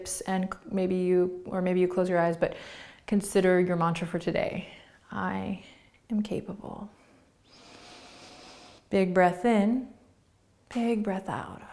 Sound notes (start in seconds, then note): 6.9 breathing